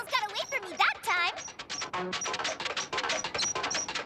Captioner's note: chopper clunking, squeaking